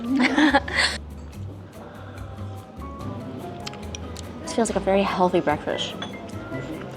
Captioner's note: laughs